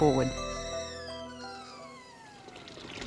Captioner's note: kettle whistles